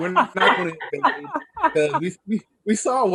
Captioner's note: panelists laughs